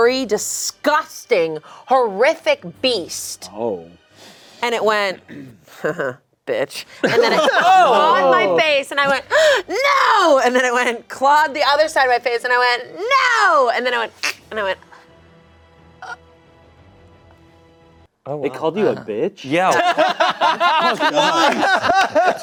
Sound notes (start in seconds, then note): 19.7 everyone laughing